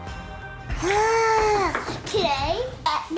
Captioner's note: gasps